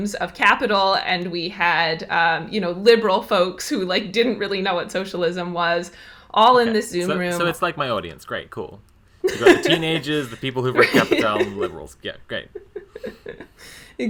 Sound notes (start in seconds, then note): 9.2 laughs